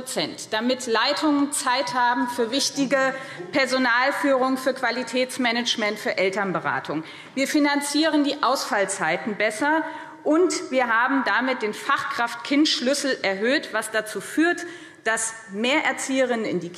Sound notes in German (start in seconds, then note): none